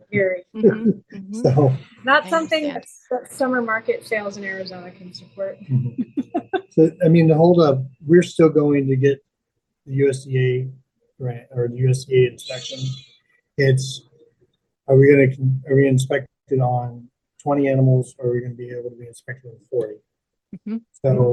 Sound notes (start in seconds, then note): 5.6 laughing; 12.0 sheep bleating in background